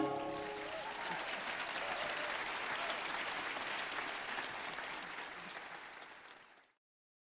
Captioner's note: applause